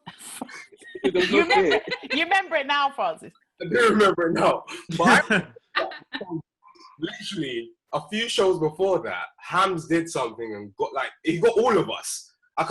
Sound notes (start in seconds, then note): 0.6 all laughing; 5.0 speaking faintly